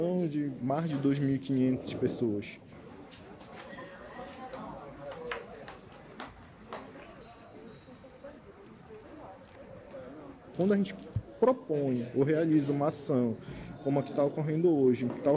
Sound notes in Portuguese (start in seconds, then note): 4.4 Vozes e passos